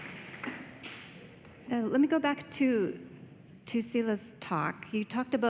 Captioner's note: applause